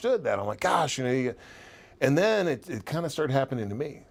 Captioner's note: none